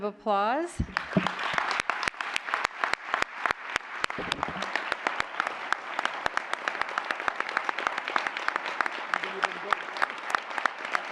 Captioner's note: applause